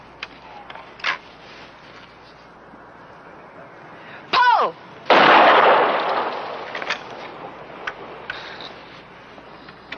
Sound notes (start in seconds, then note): 1.3 gun clicking; 5.1 gun firing; 5.9 gun clicking